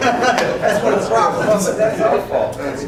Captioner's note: chatter